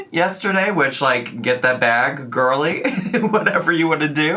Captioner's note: laughs